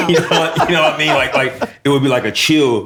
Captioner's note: laughter